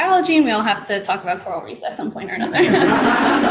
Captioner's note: laughter